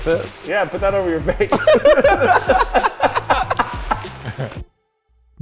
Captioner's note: laughing